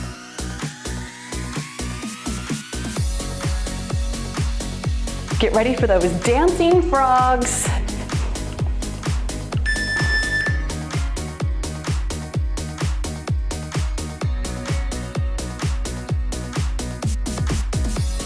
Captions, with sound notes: Get ready for those dancing frogs. (timer beeps) (cheerful music)